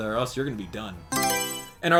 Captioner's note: Mario Selection Sound